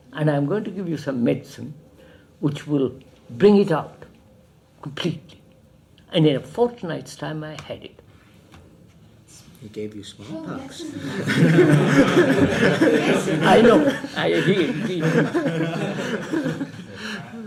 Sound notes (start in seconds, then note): 10.7 laughs; 12.5 laughter